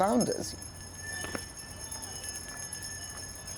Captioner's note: bell ringing